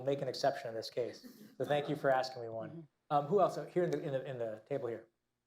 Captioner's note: laughter